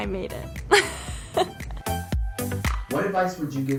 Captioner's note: laughs